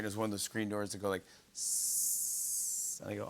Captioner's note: hisses